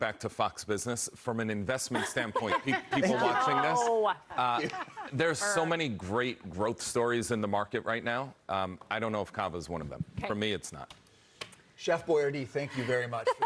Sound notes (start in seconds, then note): 4.2 laughter